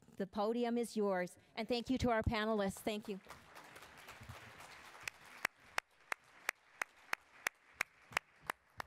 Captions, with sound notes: the podium is yours and thank you to our panelists. Thank you. (attendees applauding)